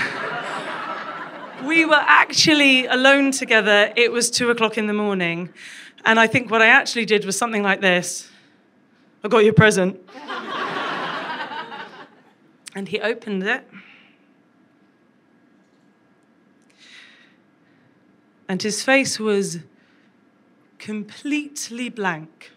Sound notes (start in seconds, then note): 10.1 crowd laughs